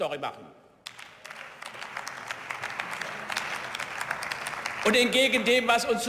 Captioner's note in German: Beifall